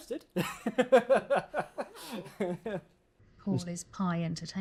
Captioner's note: chuckling